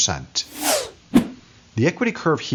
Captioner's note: whooshing